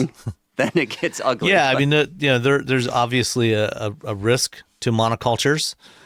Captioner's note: laughs